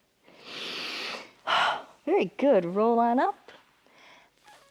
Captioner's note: inhales and exhales